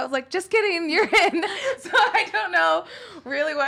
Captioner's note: laughs